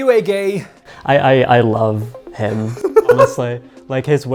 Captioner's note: chuckles